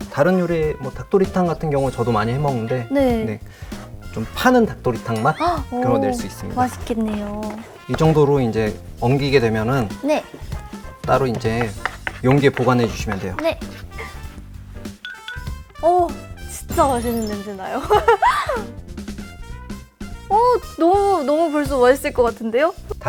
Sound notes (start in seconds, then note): 13.6 sniff sniff